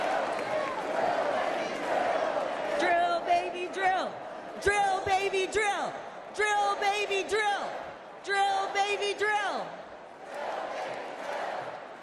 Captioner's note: applause